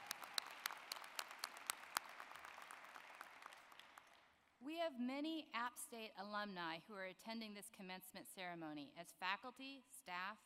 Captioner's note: applause